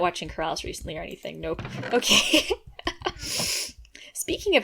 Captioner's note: laughs